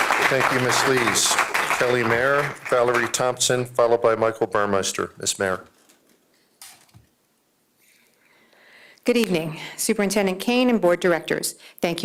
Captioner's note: applause